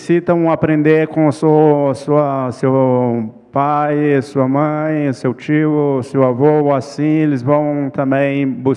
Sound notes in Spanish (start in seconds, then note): 0.0 ponente habla en portugués